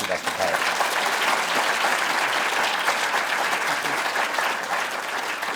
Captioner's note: applause